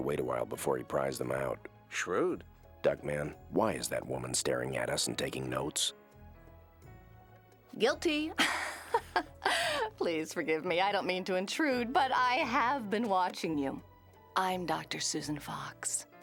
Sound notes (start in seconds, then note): 8.4 chuckles